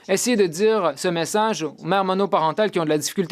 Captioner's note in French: voix de l'interprète